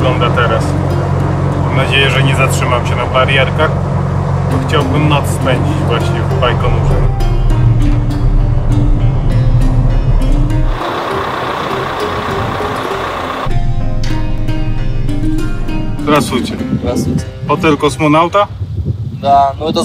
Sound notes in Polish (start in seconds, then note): 9.4 muzyka i dźwięk jadącego samochodu